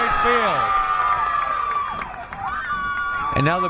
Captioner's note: crowd cheering